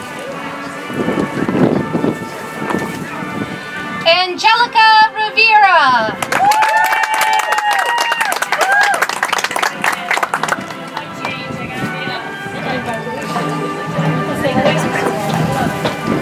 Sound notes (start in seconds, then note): 9.8 audience applauds; 13.6 soft music